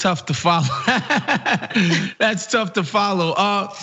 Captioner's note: laugh